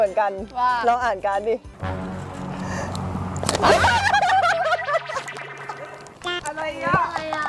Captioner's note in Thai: เสียงหัวเราะ